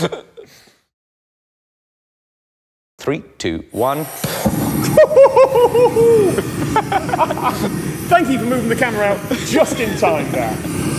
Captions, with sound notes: 3, 2, 1. (hoots) Thank you for moving the camera out just in time there.